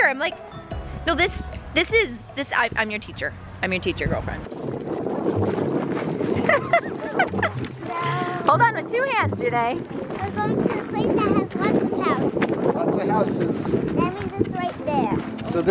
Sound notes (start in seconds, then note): 4.8 wind whistling; 6.3 laughing